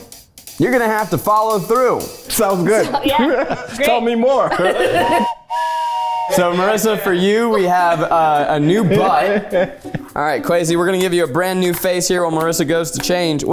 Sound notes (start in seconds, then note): 4.7 whistle blows